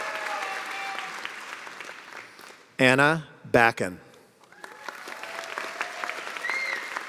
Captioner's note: cheers and applause